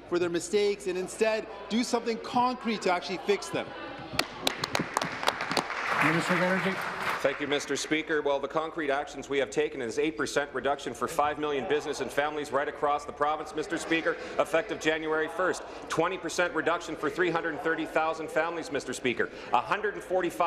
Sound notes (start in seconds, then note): 8.2 applause